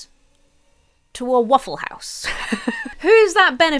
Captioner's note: laughs